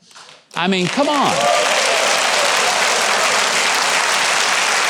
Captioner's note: audience applauding